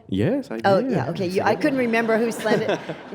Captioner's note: audience laughs